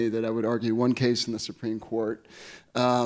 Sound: none

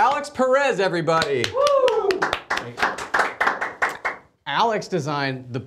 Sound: studio claps and cheers

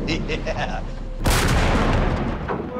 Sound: blast

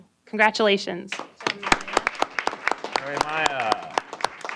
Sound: applause

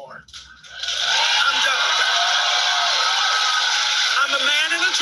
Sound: audience cheering

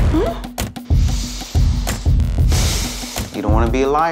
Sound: sighing

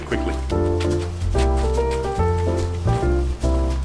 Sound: footsteps plodding; christmas upbeat music

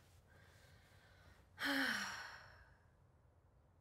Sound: sighs

